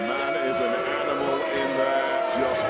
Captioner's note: crowd boos